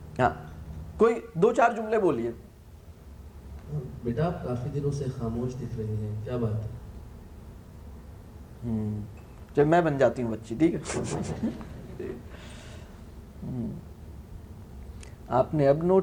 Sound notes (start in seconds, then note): 10.8 laugh